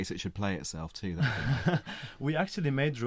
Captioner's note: laughter